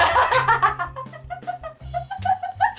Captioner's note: laughs